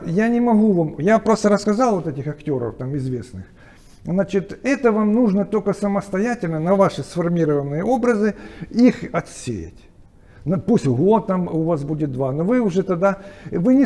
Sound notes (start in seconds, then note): 0.0 chatting indistinctly